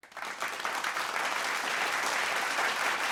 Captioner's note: applause